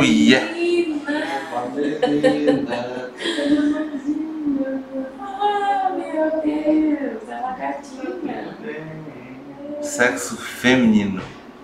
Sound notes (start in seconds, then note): 1.5 laughter